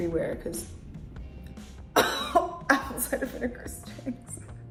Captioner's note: coughing